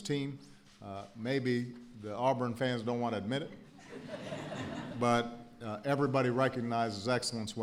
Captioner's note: laughter